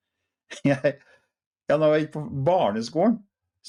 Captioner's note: laughs